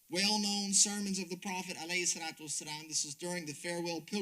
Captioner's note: speaks Arabic